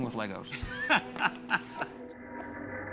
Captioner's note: laughing